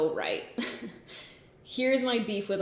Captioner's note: giggles